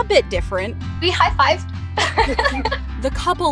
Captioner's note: laughs